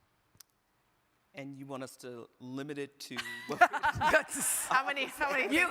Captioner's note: everybody laughing